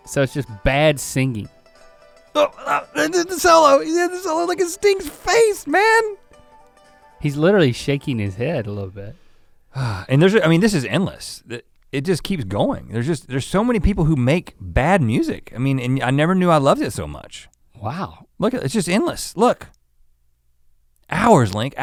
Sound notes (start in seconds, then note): 2.3 grunting; 10.0 sighs